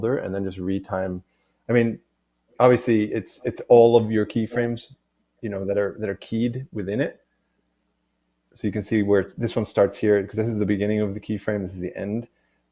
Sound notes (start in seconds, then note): none